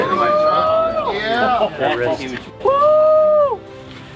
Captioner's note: staff cheering